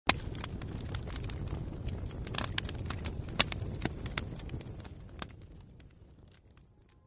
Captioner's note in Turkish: yanan odun sesleri̇